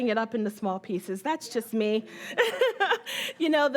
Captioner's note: laughing